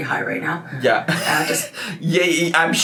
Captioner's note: laughs